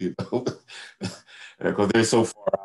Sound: laughs

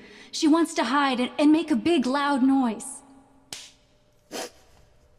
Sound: claps

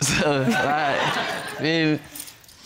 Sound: all laughing

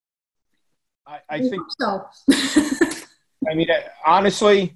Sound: laugh

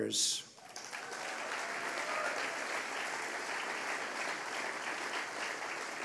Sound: applause

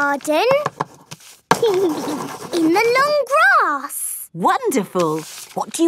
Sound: giggling

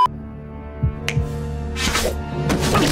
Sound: snaps fingers

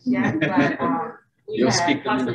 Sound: laughing

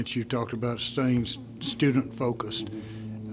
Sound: multiple voices

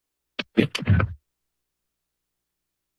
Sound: microphone thuds

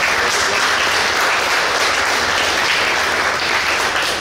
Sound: clapping

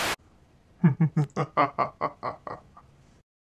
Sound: evil laughter

